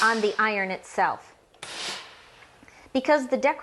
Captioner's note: iron hissing